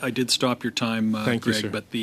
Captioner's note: speaking French